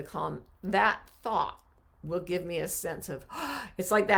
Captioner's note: gasps